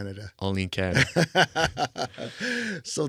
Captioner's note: laughing